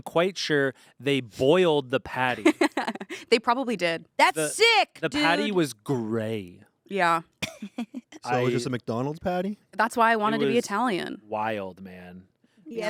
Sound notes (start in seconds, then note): 2.3 laughs